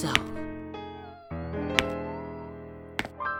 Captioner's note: weakly whimpers